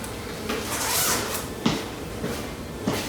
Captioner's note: zipping